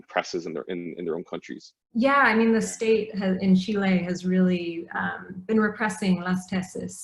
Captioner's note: foreign language spoken